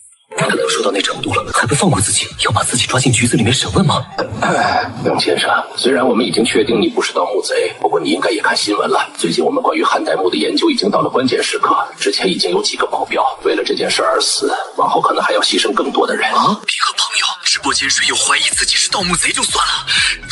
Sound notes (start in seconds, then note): 4.0 cough